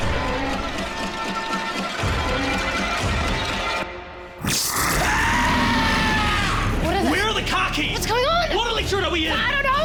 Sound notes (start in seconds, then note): 4.4 monster hissing; 4.4 screams